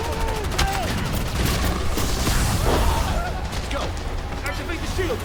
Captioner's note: loud blasting; guns banging